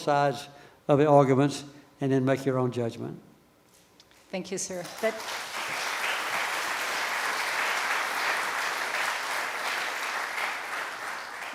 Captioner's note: applause from the audience